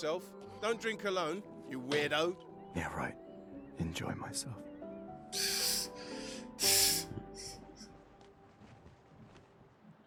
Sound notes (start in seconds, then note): 1.7 sad music; 1.9 laughing